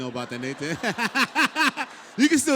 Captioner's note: laugh